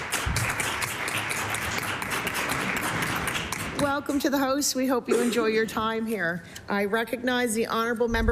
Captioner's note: applause